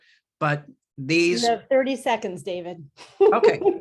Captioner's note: laughs